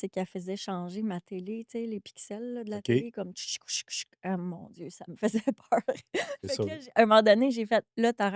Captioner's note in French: rires